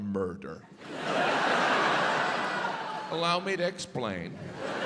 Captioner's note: audience laughs